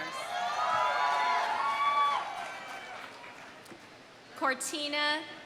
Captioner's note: audience cheering; audience applauding